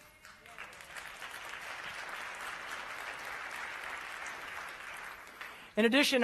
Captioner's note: applause